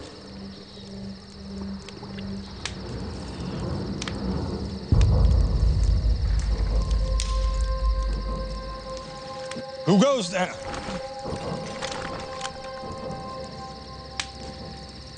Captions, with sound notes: (eerie music) (twigs snap) - Who goes there?